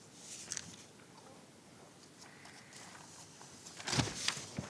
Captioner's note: papers rustling